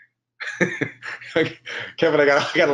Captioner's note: chuckles